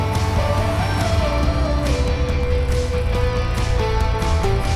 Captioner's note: applause